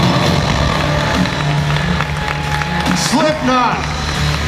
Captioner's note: audience cheering and applause; hard rock music